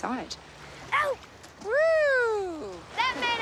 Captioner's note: exclaims